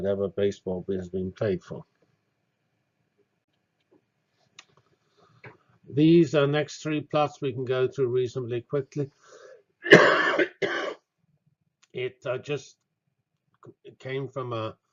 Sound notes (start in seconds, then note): 9.8 cough